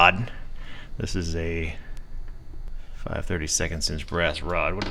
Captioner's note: none